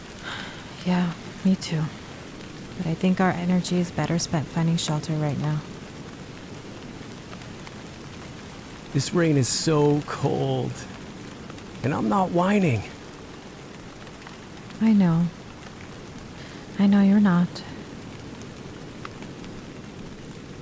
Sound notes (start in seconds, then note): 0.1 sighs; 15.3 rain heavily pattering